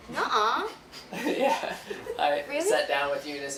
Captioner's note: laughing